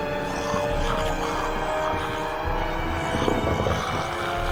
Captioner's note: intense music; zombies growling